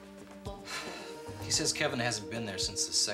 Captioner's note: sighs deeply